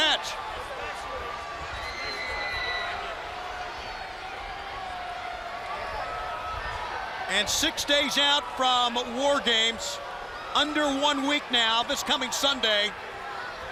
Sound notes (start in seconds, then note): 3.0 crowd chatter